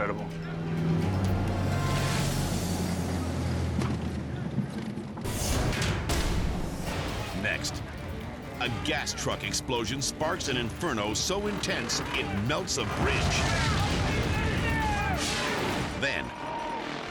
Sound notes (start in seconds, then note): 0.0 dramatic music; 0.2 plane humming; 3.6 plane thudding; 5.2 dramatic air whoosh; 11.2 bridge collapsing; 11.8 people yelling; 12.7 fire exploding; 15.3 dramatic air whoosh